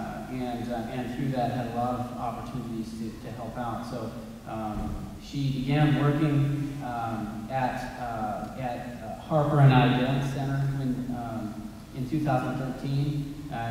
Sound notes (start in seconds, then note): none